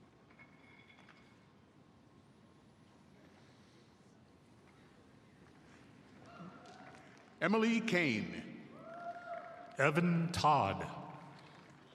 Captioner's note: applause